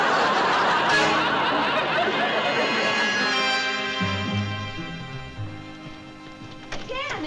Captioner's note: laughter